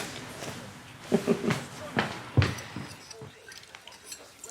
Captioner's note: mum chuckling softly